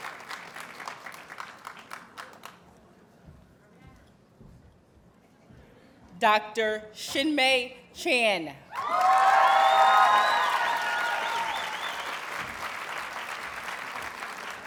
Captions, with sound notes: Dr. Shin Mei Chan. [Audience cheers and applauds]